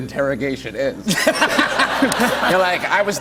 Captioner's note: laughter